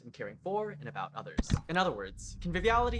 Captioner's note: click